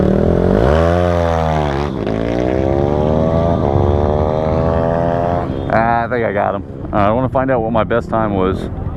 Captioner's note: motorcycle revving